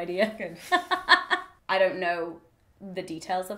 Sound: laughs

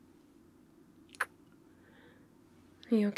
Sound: kiss

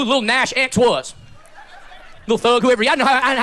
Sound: sparse, faint laughter

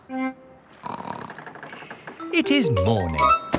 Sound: snorts

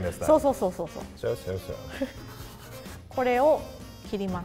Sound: speaks in foreign language; chuckles; speaks in foreign language

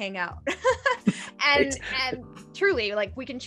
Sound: laughing

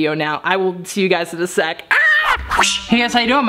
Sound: screams

